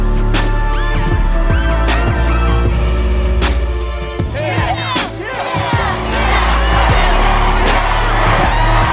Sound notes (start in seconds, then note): 4.3 crowd cheering